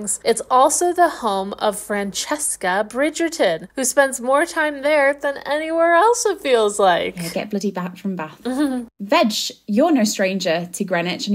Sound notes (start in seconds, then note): 8.4 laughing